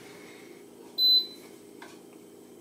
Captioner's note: beep